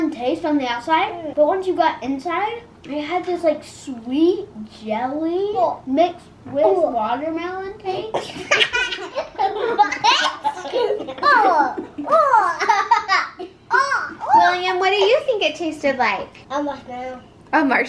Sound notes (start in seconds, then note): 8.2 laughs